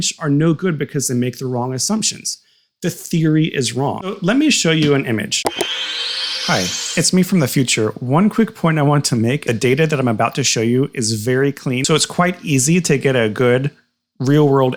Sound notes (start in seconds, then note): 5.5 Magic Time Teleporter Swoosh